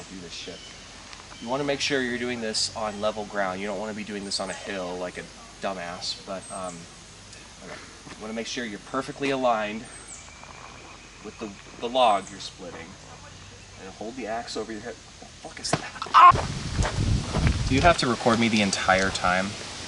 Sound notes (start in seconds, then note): 16.1 screams in pain